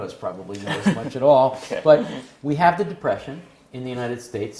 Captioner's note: laugh